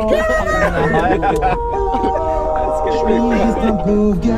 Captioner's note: all just going silly with laughter